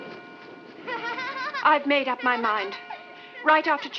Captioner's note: children laughing